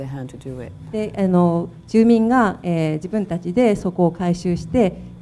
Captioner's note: speaking foreign language